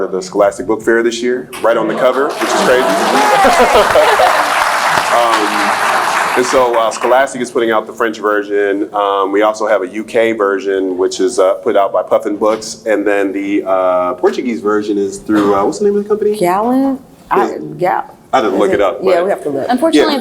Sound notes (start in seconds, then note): 2.2 cheers; 2.4 laughs; 5.1 applauds